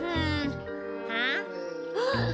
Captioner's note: gasps